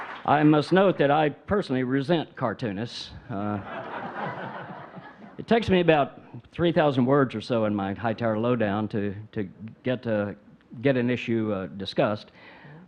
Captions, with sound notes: I must note that I personally resent cartoonists. (audience laughing) It takes me about 3,000 words or so in my Hightower low-down to get an issue discussed.